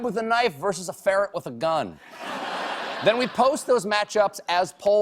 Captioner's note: laughter